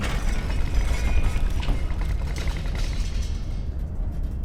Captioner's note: loud rattling